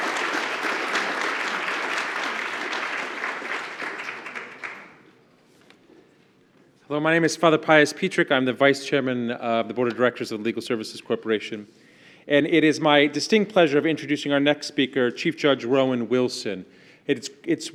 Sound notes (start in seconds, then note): 4.1 applause